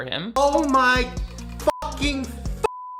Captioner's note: beep